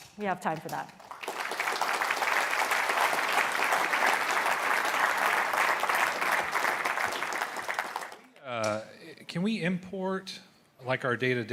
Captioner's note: applause